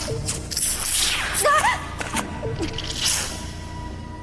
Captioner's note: screams